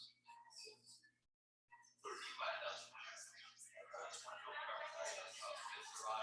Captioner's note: people chattering indistinctly